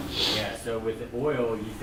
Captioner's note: voiceover